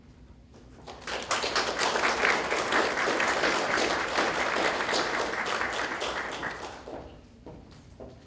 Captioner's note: graduates clapping